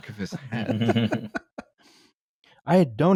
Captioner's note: quiet laughter